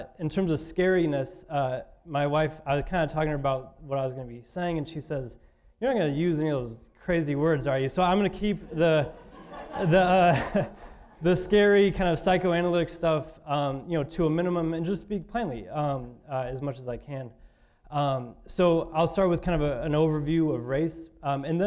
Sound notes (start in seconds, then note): 8.2 audience laughing